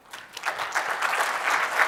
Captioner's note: applause